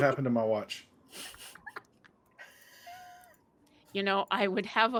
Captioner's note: laughing